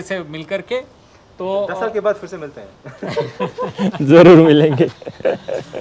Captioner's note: laughter